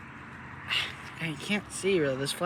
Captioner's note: witness 1 sighs